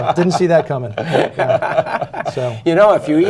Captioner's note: laughter